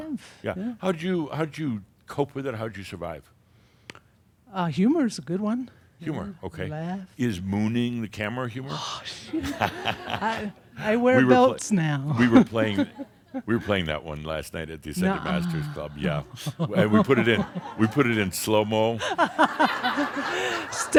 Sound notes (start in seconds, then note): 9.3 Adamus chuckles; 12.0 she chuckles; 15.0 she sighs and then chuckles; 19.0 laughter